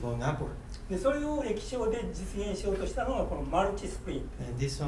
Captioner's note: speaking in foreign language